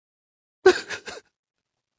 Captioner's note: sobs